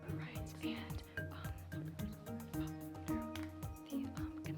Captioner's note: team whispering; pensive music continues